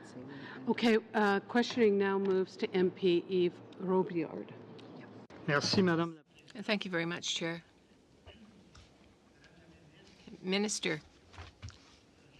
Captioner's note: speaking french